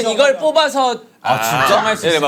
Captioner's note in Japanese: あぁ～～～～